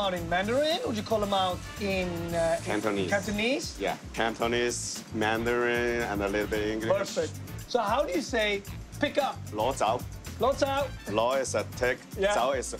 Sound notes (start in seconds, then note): 9.6 speaking Cantonese